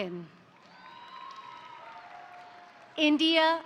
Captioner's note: crowd cheering; crowd applauding